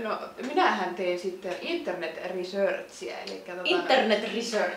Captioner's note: Said in clumsy Finnish rally English